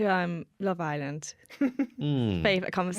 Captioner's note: giggles